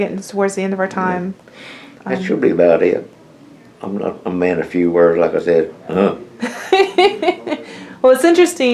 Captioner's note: laughter